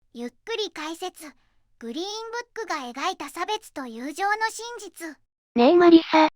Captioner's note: slow commentary